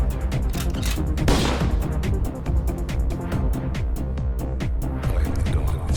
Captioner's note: gunshot fires; sound effect of shotgun cocking and firing